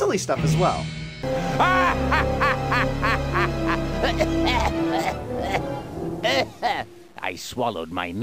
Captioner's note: maniacal laugh of Sir Alistair Loveless